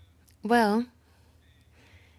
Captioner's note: speaking in French